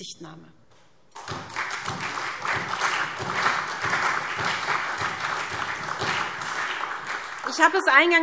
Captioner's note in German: Beifall SPD, vereinzelt CDU und BÜNDNIS 90/DIE GRÜNEN